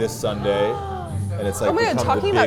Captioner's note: gasps